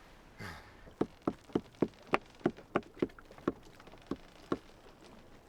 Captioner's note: knife pounds loudly